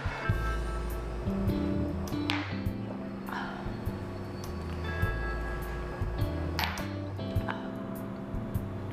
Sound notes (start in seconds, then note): 0.1 blues music; 1.4 pool balls clacking